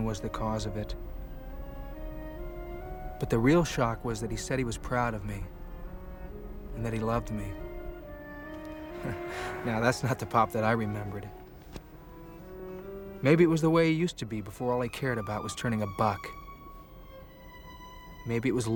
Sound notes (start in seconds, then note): 8.9 chuckles